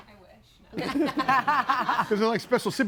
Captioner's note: group laughs